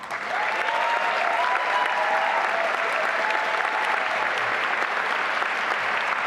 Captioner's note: applause and cheering